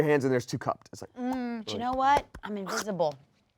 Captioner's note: makes popping noise with mouth